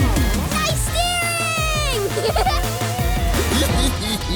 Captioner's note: giggling